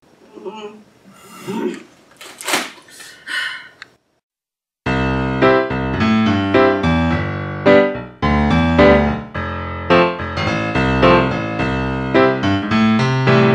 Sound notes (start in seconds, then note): 1.0 groans in protest and frustration; 2.9 sigh; 4.9 playful music begins